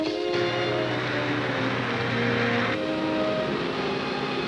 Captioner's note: bus engine whirring